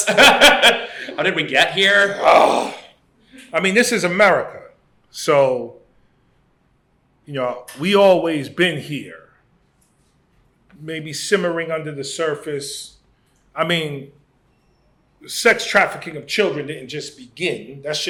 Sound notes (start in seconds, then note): 0.0 laughs; 1.9 groan